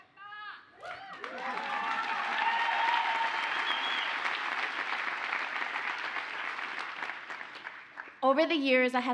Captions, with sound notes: (audience cheers and applauds) Over the years,